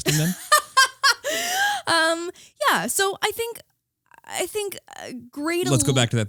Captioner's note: laughing